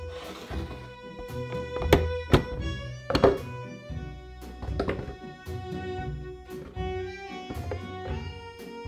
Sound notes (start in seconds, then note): 3.2 apples dropping; 4.5 bananas dropping